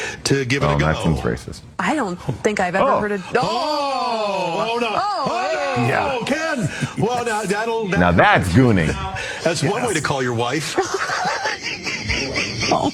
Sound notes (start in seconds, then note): 5.7 chuckles; 11.1 anchors laughing